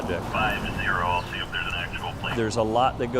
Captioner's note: sounds from the police radio